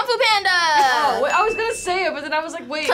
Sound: bell chimes

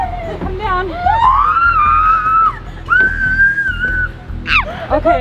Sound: kids screaming

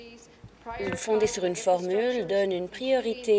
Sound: none

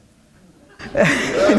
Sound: laughter

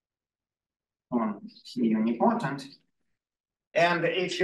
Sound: audio distorting

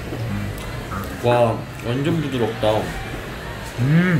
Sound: nom nom nom

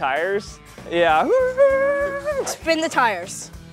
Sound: imitating tires spinning

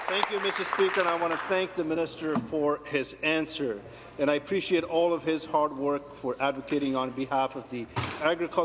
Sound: some Applause

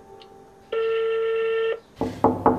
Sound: waiting to answer beep; door knocking

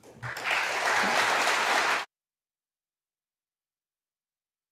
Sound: audience applauding

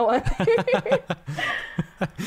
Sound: laughter

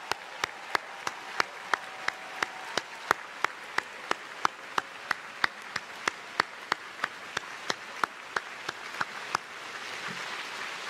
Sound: cheers and applause

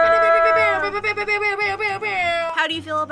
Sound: imitates air horns

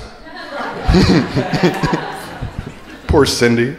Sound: crowd laughing

